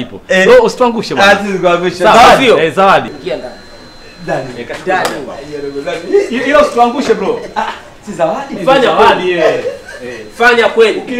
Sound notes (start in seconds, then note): 9.1 laughs